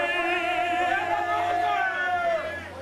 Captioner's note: crowd chanting